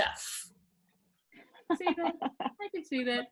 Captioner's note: laughing